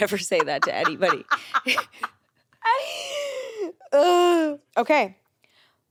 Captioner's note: laughs